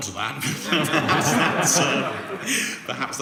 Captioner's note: laughing